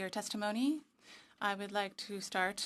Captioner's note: speaking French